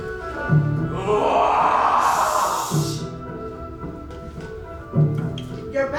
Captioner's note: growls loudly